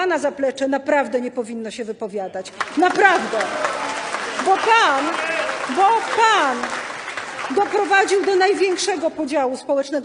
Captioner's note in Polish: Aplauz